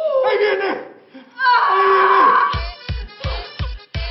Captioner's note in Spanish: Gritos